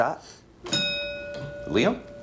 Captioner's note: ding